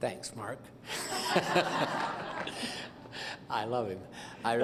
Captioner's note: laughter